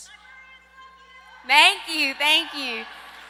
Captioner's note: audience member cheers